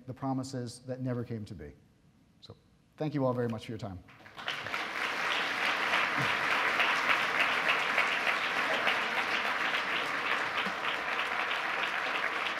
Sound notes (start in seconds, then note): 4.2 audience applause